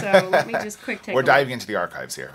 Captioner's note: laughs